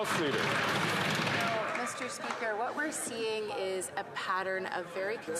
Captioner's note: some Applause